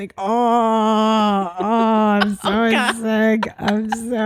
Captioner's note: moaning